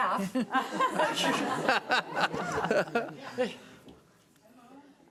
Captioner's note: audience laughing